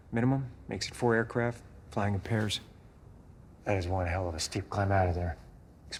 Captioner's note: none